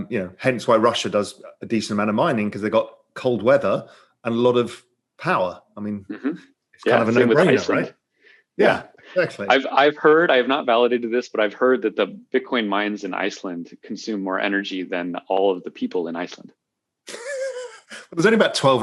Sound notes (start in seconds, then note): 17.1 laughter